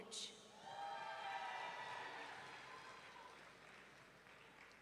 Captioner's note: audience cheering